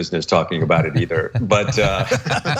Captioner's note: laugh